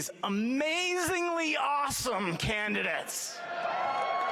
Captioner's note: applause